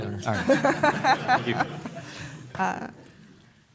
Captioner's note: laughter